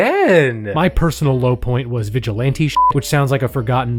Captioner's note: beep